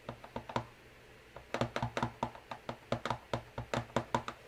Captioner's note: stamp tapping